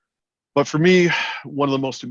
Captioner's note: sighs